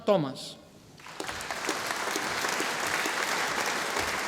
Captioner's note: audience applauding